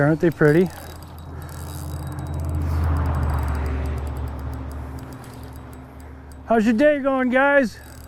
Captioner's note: reel spinning